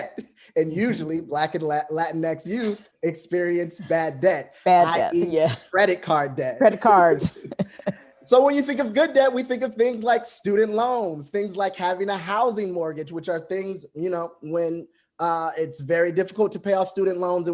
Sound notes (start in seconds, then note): 6.7 laughing